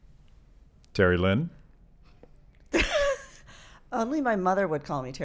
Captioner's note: laughs